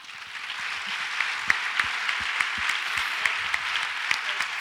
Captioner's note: audience applauds